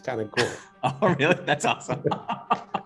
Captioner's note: laughing